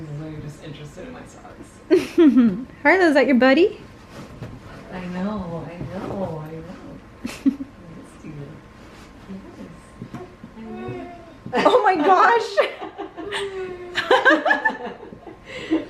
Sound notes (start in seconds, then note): 3.0 laughs; 10.5 whimpers; 13.7 laughs